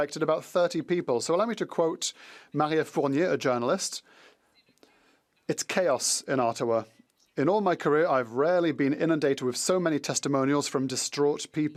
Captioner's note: speaking French